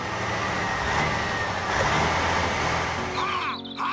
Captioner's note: engine Running